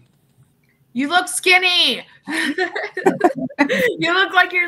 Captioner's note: laughs